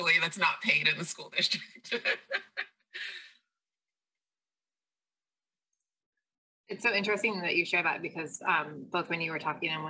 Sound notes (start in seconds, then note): 1.8 laughs